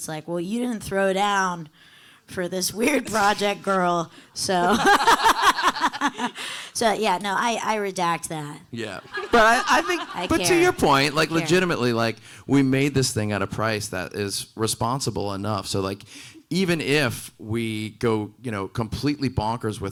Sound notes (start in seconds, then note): 4.6 everyone laughing